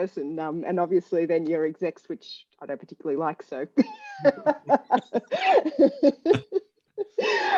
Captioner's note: laughs